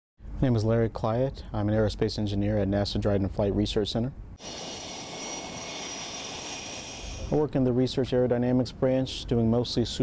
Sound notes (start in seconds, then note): 4.4 sound of jet engine winding up